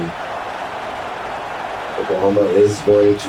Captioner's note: crowd Noises